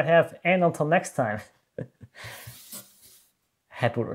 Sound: chuckles

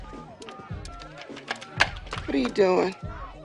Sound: phone dialing

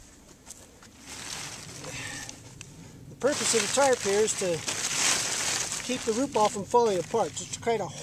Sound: tarp rustling

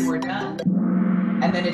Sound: gong

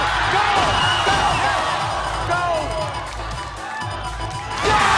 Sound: audience screaming

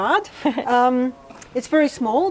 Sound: laughs

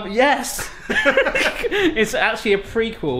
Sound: both laugh

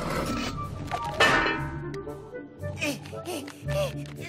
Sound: helmet clanging; grunting

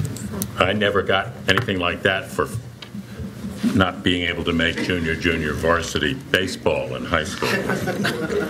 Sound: laughter

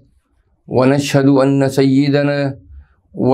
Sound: arabic

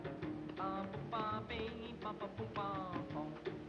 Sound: humming

